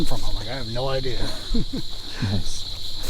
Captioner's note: laughing